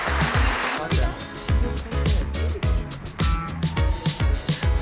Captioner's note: chattering off-mic